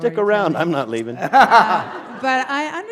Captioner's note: laughter